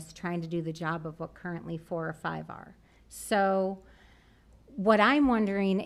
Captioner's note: none